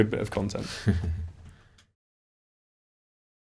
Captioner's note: laughs